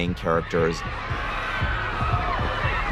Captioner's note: all screaming